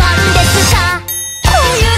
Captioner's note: ding